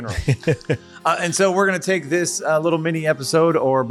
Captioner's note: laughing